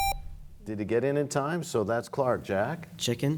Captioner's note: buzzer; bell chimes